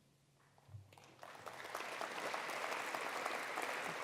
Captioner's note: applause